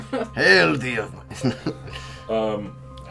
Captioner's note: chuckles; dramatic reading voice